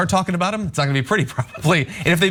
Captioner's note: laugh